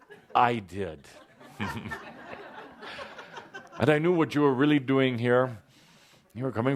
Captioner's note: laughter